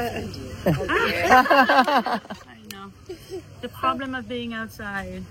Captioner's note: loud laughter